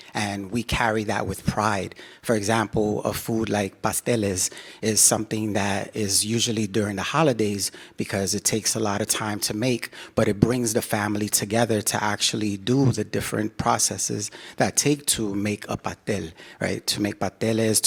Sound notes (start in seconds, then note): none